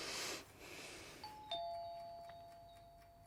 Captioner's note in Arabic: يتنفس بعمق; يرن جرس الباب